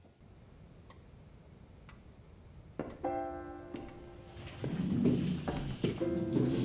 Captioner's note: clock ticking